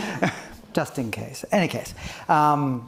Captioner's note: panel chuckling